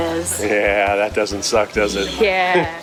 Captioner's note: laughs